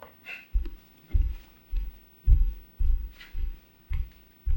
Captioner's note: footsteps thumping